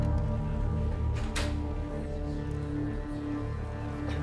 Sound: door opens

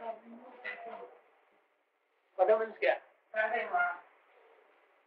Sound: Hindi

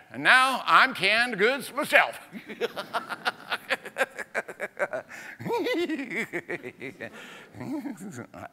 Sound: laughs

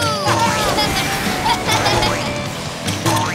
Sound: laughing

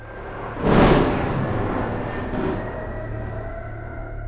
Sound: loud Thunder Clap

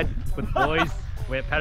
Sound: laughs

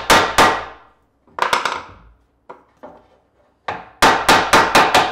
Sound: hammering piece in place

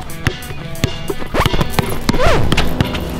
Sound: rock music; record scratch

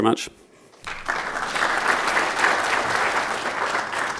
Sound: applause

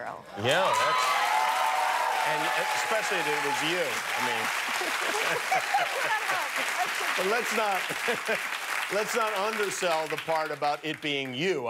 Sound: cheers and applause

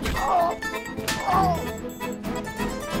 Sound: slapping

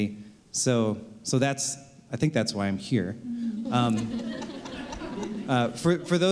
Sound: laughter

